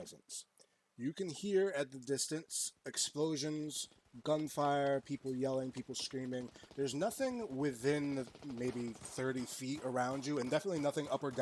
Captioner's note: distant gunfire returns